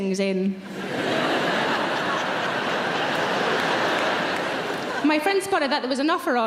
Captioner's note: audience laughs and claps